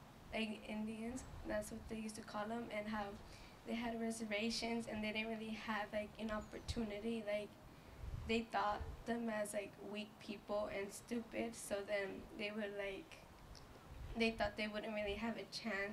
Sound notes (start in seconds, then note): none